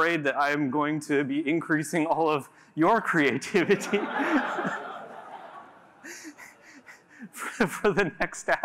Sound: laughter

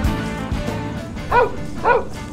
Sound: dog Barks

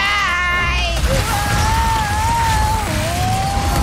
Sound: structure crumbles

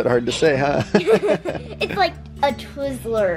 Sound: laughs

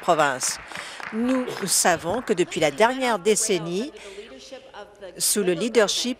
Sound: some Applause

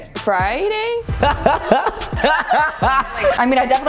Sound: laughs

